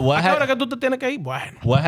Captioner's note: speaking In Foreign Language